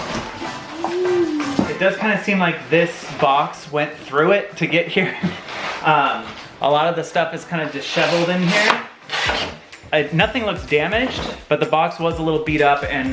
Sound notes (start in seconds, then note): 6.0 laughs